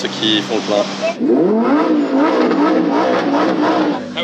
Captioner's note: engine roaring